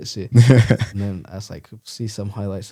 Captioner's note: laughs